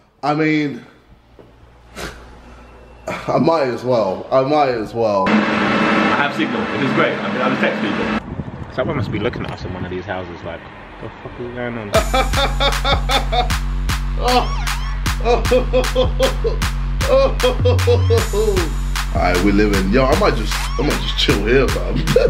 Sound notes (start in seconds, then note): 12.5 dance music; 14.2 laughing